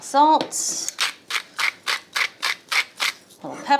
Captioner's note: pepper grinds